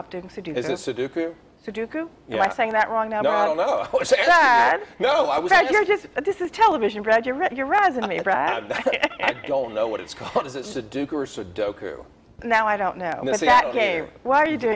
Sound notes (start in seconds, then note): 7.9 laughs